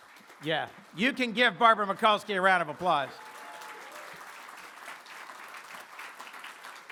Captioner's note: applause